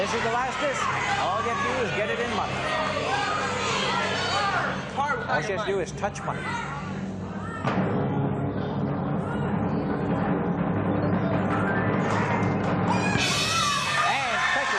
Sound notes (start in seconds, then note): 3.5 audience clamoring; 7.0 drum-roll